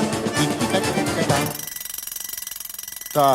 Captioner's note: the clock rings